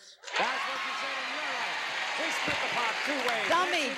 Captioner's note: audience cheers